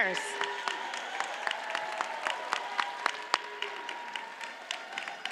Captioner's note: cheers and applause continue